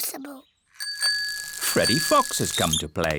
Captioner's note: bicycle bell rings